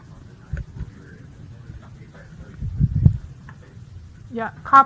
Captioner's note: faintly speaking